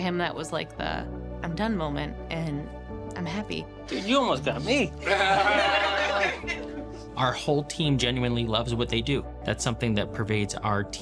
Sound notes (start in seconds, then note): 5.0 laughter